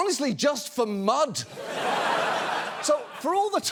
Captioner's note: audience laughs